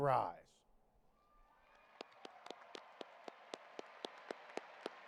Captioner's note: audience applauding